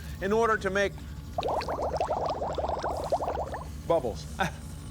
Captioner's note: bubbling